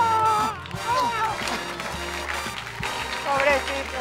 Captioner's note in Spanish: Ovación